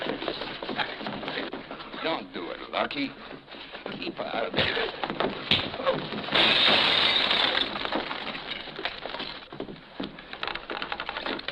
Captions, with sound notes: Don't do it, Lucky. - Keep out of it. - [thudding] [glass shattering]